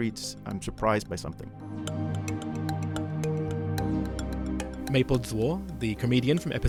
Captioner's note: voiceover